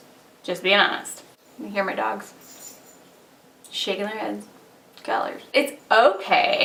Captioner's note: jingling sound